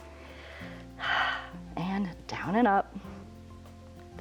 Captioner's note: exhales